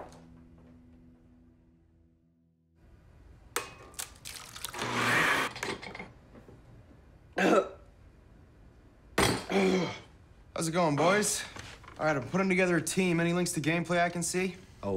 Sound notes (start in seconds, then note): 3.6 egg cracking; 4.7 blender whirring; 7.2 choking